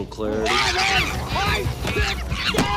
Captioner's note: chimpanzee shrieking